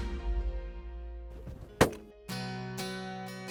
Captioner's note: gun shot